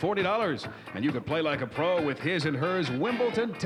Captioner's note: none